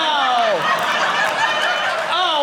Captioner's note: audience laughing